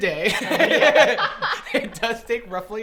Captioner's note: laughs